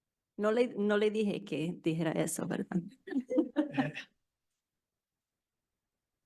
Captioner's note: speaking in foreign language